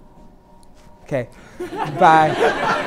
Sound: laughter

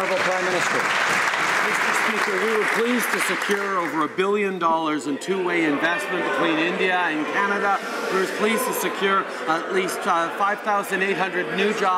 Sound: some Applause

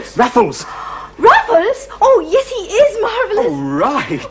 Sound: gasps

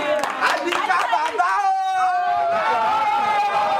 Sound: crowd cheering

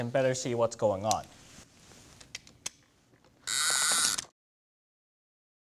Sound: launcher zips

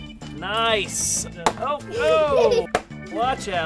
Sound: giggles

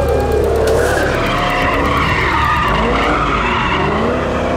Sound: tires squealing

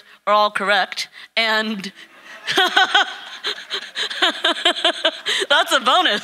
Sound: laughing

